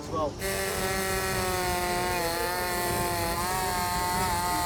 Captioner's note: chainsaw buzzes